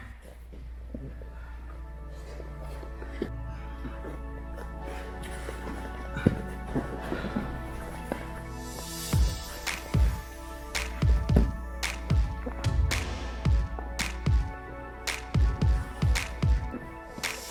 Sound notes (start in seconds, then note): 0.9 upbeat music; 6.3 grunting